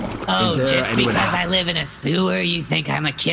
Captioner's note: offended sloshing